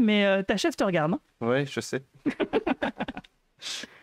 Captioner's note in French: rires